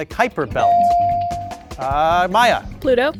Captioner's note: bell sounding